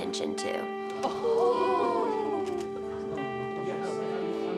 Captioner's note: women gasping